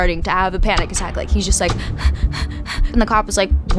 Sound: breathes heavily

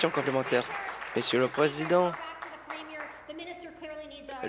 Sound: applause

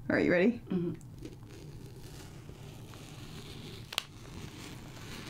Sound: fabric cutting

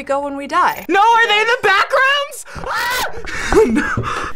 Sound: laughs; screams

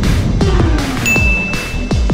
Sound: ding

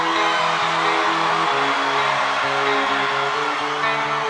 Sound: guitar music building; crowd cheering

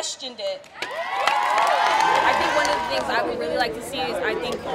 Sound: applause

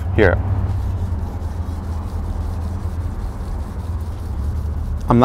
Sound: rubbing sound

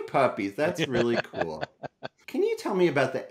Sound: laughs

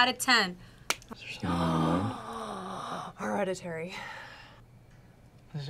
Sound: gasps

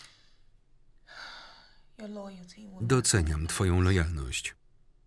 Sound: deeply exhales

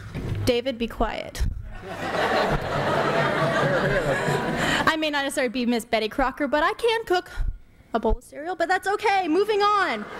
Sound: laughter

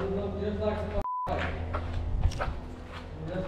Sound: beep

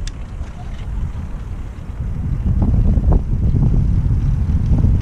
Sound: wind whirring

